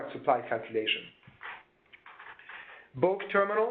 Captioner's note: keyboard typing